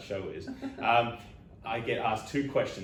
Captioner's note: laughing